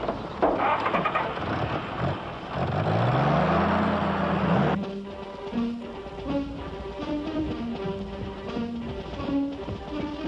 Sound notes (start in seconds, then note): 0.1 engine ignites; 4.8 agitated music